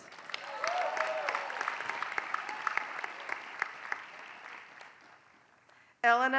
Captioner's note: applause